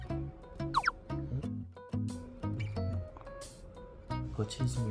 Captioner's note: wriggle